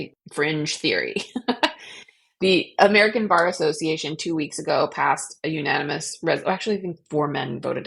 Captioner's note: laughs